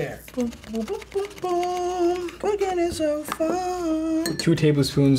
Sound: hums

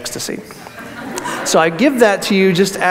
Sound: audience laughs

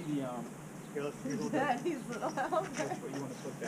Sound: laughing

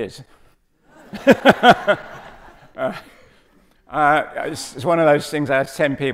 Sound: audience laughing

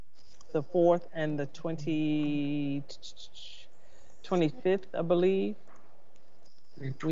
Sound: whistling

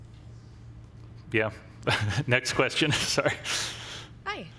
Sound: laughs

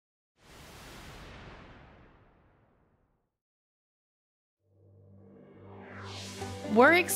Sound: whoosh sfx

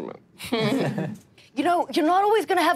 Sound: all laughing

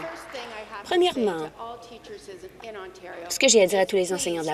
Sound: applause

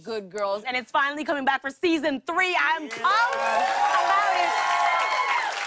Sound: cheers and applause

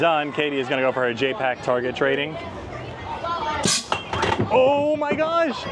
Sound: target banging

